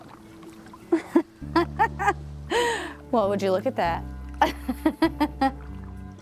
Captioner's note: laughs